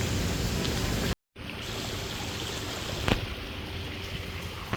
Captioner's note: sound of water stream